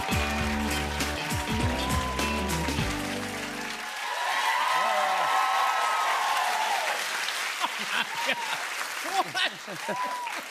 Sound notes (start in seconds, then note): 4.3 cheers and applause